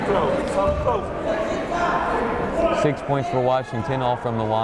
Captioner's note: chattering